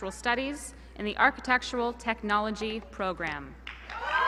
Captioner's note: applause